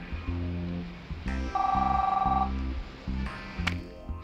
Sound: phone rings

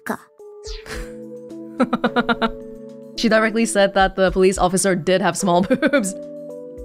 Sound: chuckles

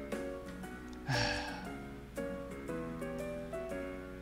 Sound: ☆APS64☆ Sighing

